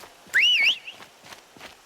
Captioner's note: whistle